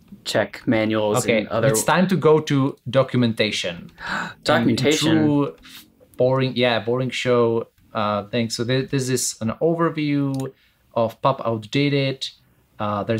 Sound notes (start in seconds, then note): 4.0 gasps